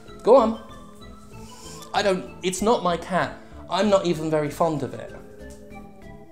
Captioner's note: inhales